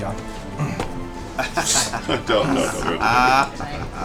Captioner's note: laughs